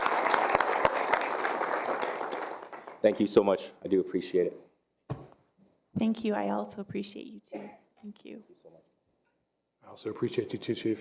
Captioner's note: applause